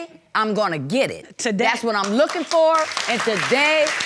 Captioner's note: audience clapping